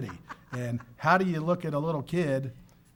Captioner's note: laughing